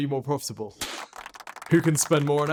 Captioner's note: audience clapping